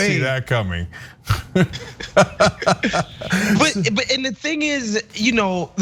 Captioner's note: laugh